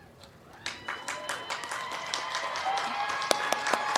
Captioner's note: crowd cheering